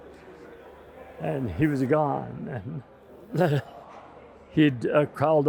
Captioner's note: sobbing